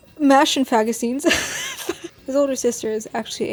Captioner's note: laughs